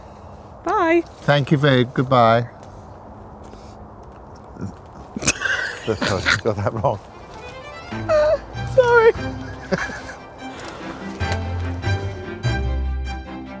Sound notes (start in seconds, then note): 5.2 laughing; 8.4 laughs; 10.2 classical music plays